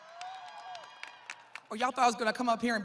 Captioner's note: students cheering